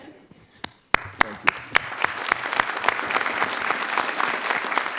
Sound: audience applauding

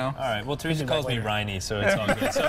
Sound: laughter

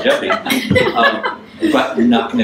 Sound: audience laughs

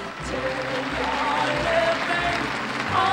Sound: applause

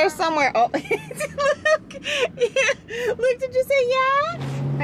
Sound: laughing

